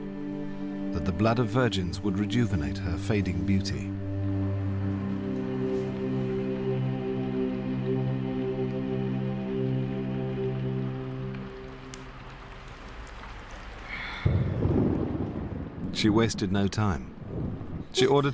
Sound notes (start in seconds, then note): 11.5 continued thunder; 12.1 rain begins outside